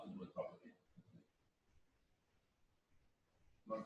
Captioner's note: pause